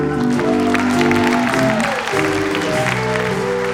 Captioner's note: audience applauds